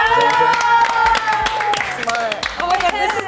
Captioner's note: members applauding